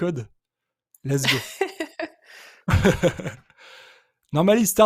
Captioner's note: chuckling